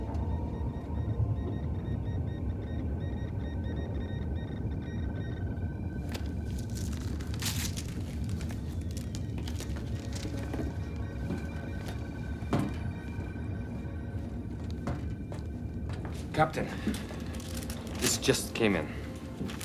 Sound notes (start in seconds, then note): 1.5 alarm